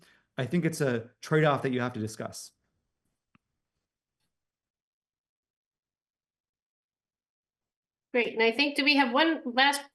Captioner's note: pause